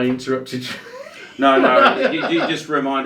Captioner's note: laughing